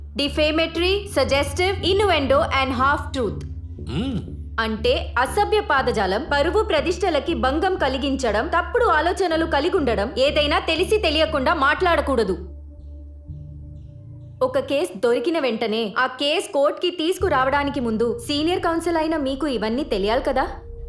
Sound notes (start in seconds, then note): 4.5 repeating in telugu